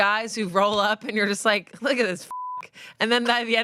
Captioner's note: beep